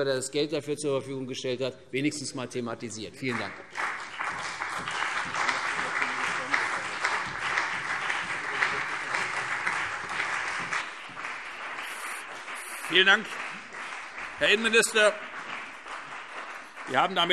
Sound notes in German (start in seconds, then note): 4.3 Beifall CDU und BÜNDNIS 90/DIE GRÜNEN